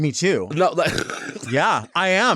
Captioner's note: laughs